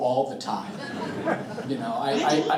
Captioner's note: all chuckling